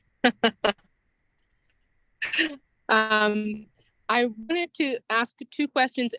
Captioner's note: laughs